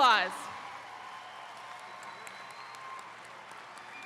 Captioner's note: attendees cheering